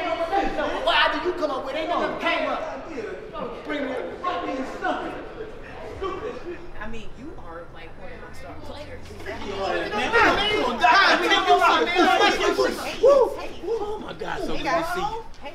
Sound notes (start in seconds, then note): 2.8 speaking away from mic; 9.2 shouting over each other; 9.8 exclaims